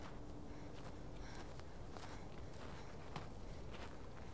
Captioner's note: Ellie breathes heavily